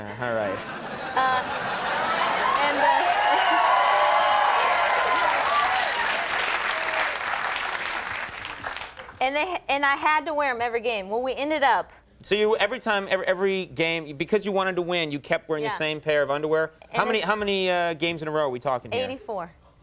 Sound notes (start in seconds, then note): 1.8 audience cheering